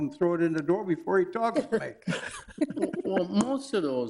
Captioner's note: all chuckling